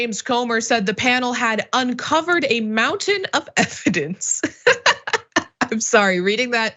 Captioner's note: laugh